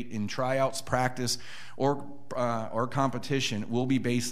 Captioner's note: none